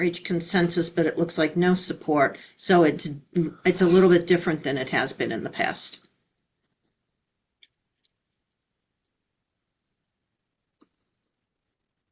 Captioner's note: pause